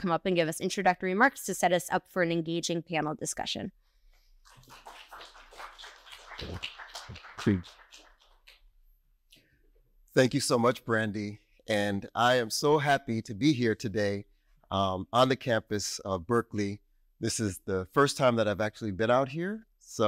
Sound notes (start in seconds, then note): 4.4 audience applauding